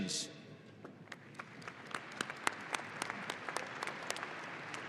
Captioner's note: audience applauding